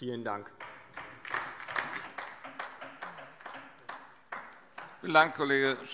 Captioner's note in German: Beifall DIE LINKE